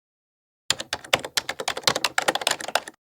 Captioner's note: typing